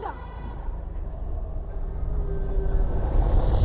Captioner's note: wind howling; rumbling, creature growling